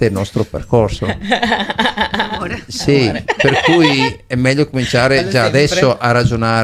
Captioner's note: laughs